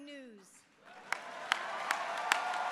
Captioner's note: applause